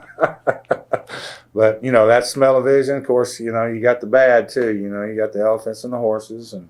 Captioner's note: laughs